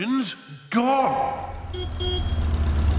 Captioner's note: horn honks